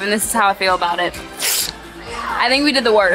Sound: paper ripping

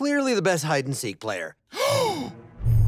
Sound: gasps

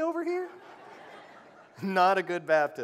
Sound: laughter

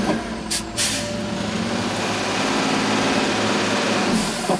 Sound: truck engine struggles

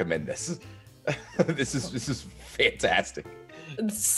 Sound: laugh

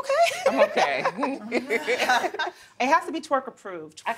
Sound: laughter

